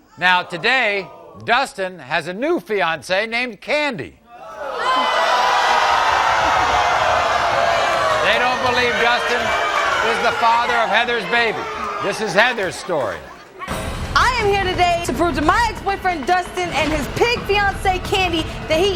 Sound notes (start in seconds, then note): 4.3 audience yelling; 4.8 audience booing